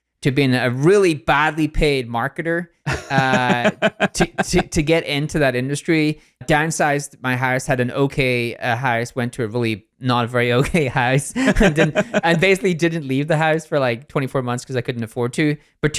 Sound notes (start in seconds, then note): 2.8 laughs; 11.2 both laugh